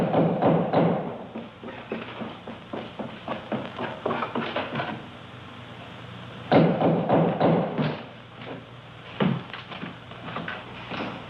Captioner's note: knocking